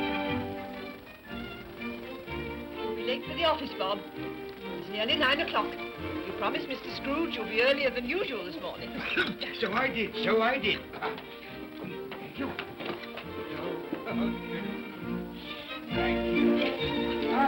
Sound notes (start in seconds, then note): 8.8 Cratchit coughs; 13.1 upbeat music